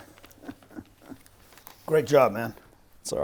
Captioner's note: laughing